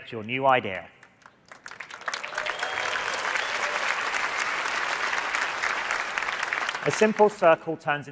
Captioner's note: applause